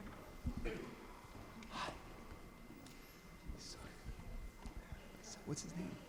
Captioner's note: audience chattering